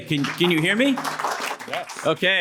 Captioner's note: applause